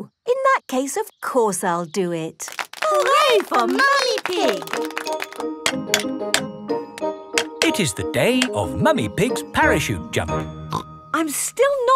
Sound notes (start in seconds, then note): 5.6 clanking